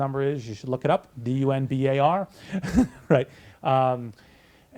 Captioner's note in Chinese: 大笑